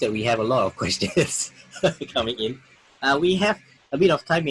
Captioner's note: laughs